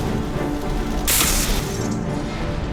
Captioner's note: chONKk! ZAAPBZZZ!